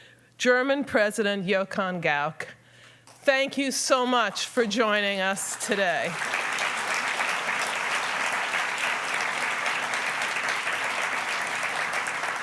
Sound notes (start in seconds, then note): 5.3 applause